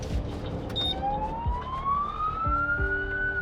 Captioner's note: siren blaring